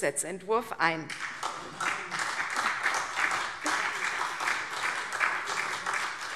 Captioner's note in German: Beifall CDU, BÜNDNIS 90/DIE GRÜNEN, SPD und Freie Demokraten